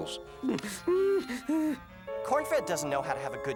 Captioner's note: whimpering